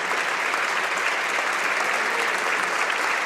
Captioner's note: applause